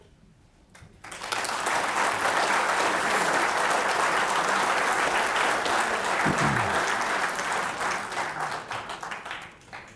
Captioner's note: applause